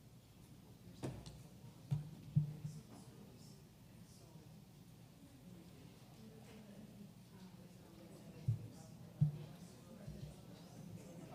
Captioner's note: background chatter